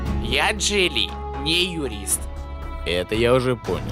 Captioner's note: none